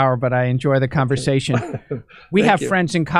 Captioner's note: laughs